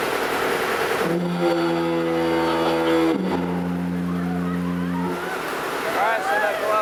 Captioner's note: sound of foghorn